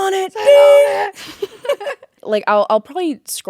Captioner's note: both laughing